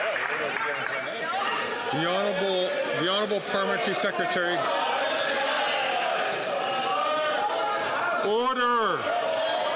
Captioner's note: some Applause